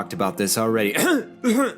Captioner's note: cough